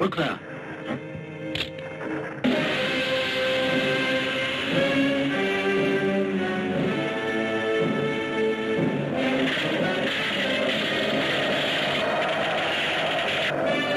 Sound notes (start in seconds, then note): 2.7 dramatic music; 9.7 ice creaking